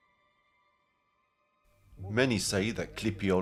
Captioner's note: speaking in foreign language